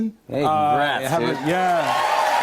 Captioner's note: cheers and applause